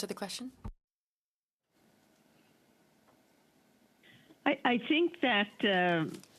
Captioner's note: speaking French